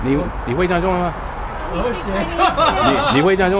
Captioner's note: mandarin